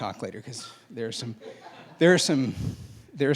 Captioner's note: laughing